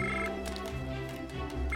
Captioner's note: phone rings